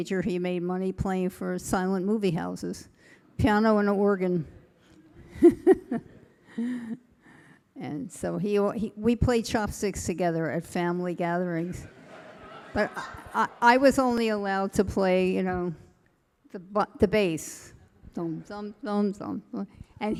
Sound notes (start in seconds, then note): 5.3 chuckling; 11.8 audience laughing